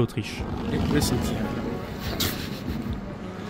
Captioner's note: laugh